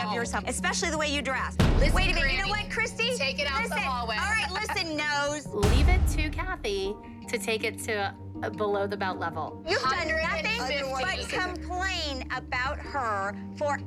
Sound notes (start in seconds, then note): 5.6 boom